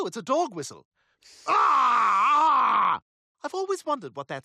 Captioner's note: yelling